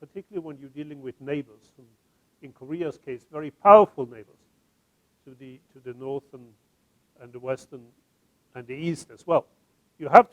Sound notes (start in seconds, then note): none